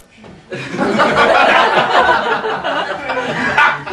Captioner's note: laughing